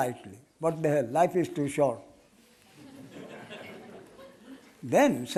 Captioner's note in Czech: smích